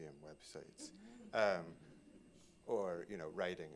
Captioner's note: laughter